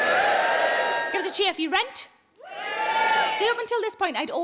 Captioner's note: audience cheering